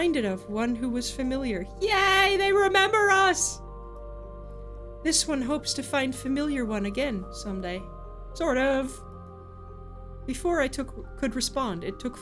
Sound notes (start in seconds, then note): none